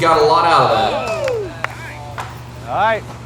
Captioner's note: crowd cheers